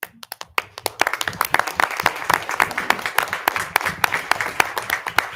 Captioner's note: people clapping